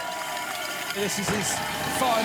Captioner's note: bells ringing; crowd cheering